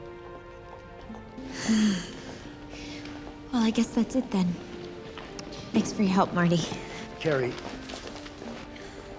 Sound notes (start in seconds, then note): 1.4 sighs